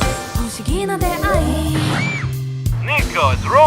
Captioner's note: Totoro SFX